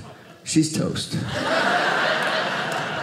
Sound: audience laughing

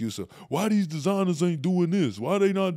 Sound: mocking voice

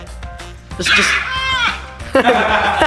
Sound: screaming; male Voice

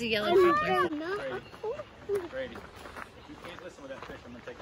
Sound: walking on crunchy gravel

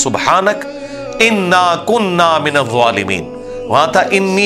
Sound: Arabic

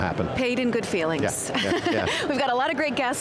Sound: laughs

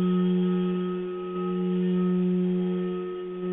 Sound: vibrating tone

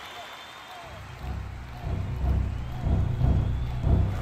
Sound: crowd cheering

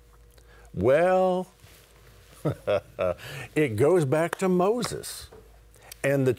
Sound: laughing

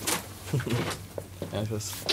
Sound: laughter

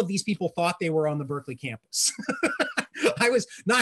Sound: laughs

